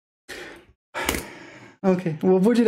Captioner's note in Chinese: 叹气